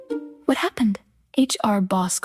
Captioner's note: female voice 1